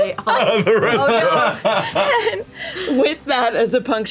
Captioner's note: laughter